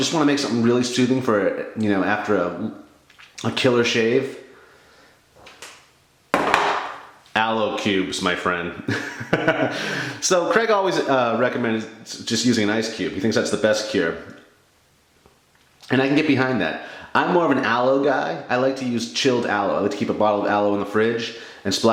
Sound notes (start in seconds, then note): 9.0 laughs